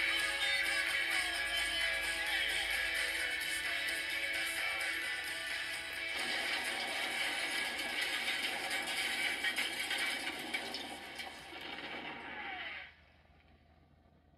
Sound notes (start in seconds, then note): 3.0 outro humming; 6.1 crash and Explosion